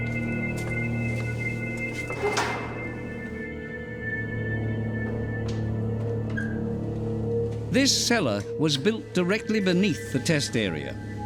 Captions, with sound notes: [door clangs] This cellar was built directly beneath the test area.